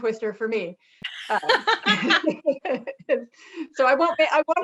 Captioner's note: laughing